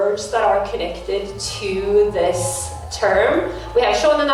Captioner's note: kpop crowd intensifies in the next room